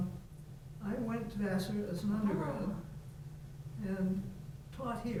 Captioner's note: faintly speaking